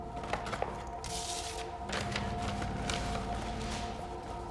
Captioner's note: paper rustling